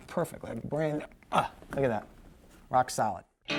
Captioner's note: grunts